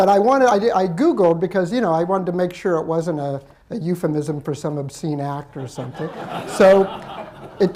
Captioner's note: laughter